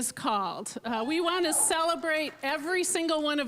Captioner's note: scattered cheering